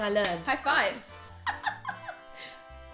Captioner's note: laughing